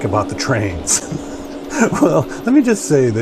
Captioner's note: laughing